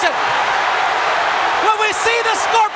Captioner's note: crowd cheering